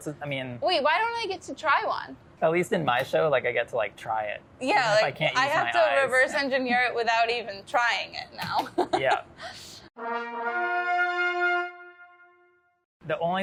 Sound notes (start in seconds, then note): 8.5 laughs; 9.9 trumpets play